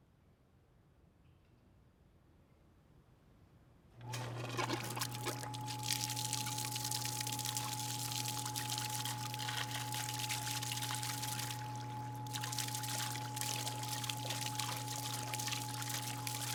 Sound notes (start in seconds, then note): 1.4 pump turns on, water gurgles; 7.7 water splashing